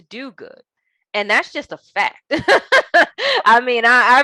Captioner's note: laughing